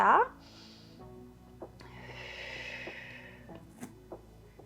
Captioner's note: exhales